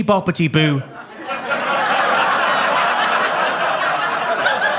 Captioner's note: audience laughs